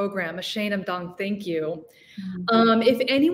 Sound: speaking in foreign language

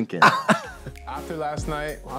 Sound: both giggle

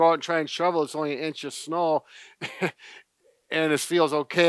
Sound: laughs

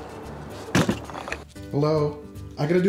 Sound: thump from weight

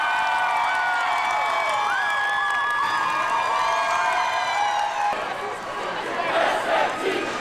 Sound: shouts and applause

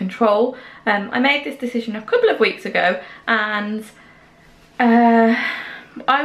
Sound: sigh

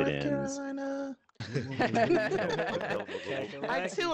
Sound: group laughing

